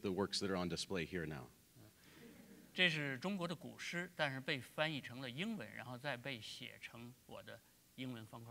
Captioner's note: speaking in Chinese